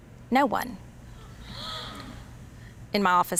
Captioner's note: girls gasp